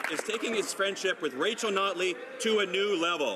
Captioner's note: some Applause